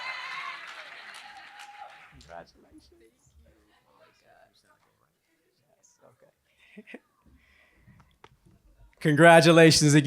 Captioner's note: applause